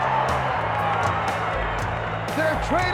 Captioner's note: audience cheers